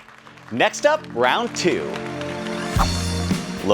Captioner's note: crowd applauding; crowd clapping